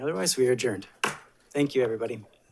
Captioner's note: gavel tapping